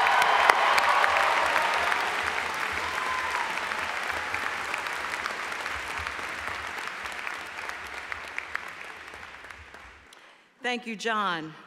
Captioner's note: applause